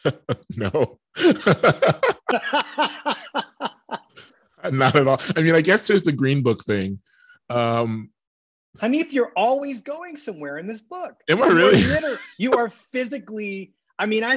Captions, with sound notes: - No, (both laughing) - Not at all. I mean, I guess there's the "Green Book" thing. - Hanif, you're always going somewhere in this book. - Am I really? - You are physically, I mean,